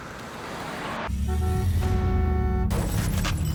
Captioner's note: glass shatters; vehicle honks